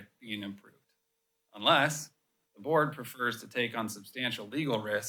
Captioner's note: none